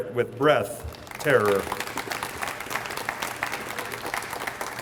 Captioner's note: audience applauds